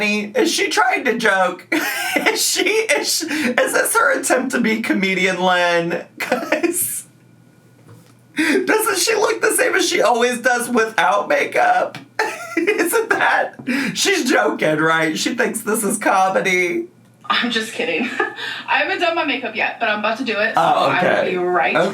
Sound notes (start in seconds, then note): 1.8 laughs; 6.9 laughs